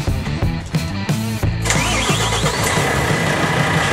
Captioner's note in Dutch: start motor